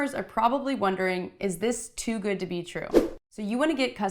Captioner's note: whooshing